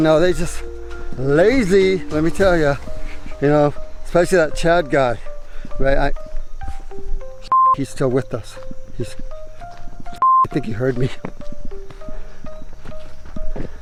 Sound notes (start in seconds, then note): 7.4 beep; 10.1 beep